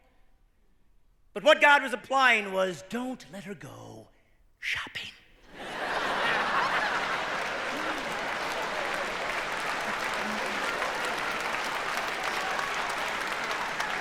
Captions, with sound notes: Let Eve not pick from the tree of good and evil." But what God was implying was, don't let her go, shopping. [laughter]